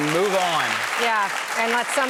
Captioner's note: applause